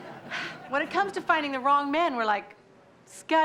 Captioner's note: sighs